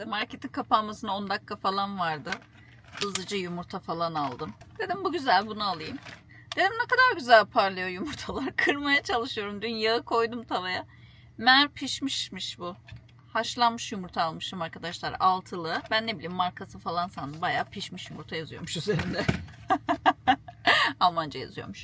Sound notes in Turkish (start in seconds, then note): 19.6 kahkaha